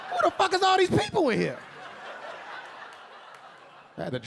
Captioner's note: audience laughing